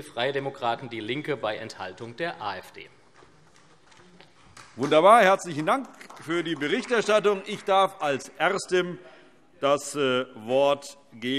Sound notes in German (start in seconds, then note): 4.4 Beifall SPD